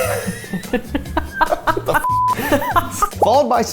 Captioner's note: beep; giggling